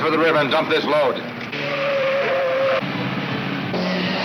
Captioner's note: tires squealing